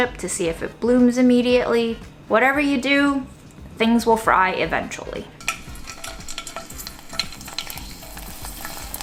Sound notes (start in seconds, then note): 5.4 chip rattling